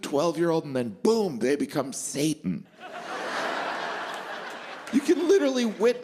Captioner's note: laughter